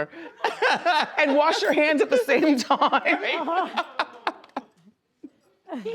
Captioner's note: laughs; laughs